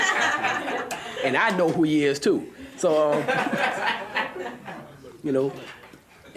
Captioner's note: laughs loudly; laughs loudly